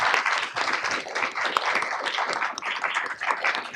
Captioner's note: audience clapping